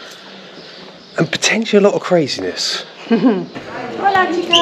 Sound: laughter

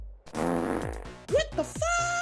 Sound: fart

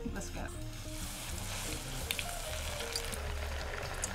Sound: oil crackling

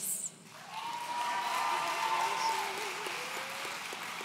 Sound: audience cheering

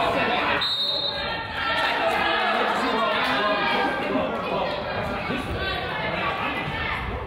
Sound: whistle blows; coach yells

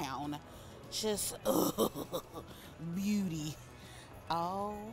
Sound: chuckles

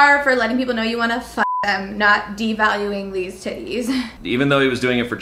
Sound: beep

